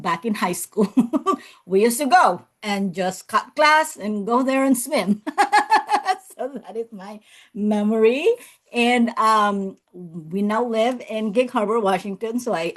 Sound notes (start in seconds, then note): 5.3 laughs